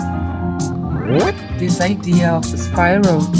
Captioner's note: Jad mimicking music; recorded Voiceover